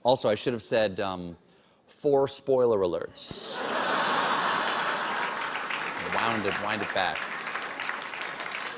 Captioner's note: laughter